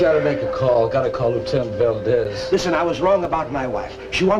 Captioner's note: laughs